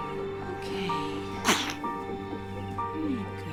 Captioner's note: Eva sneezes